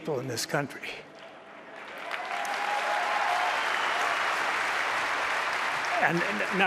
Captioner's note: applause